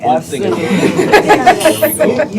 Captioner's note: laughter